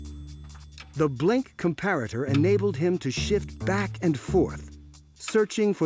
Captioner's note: comparator clicking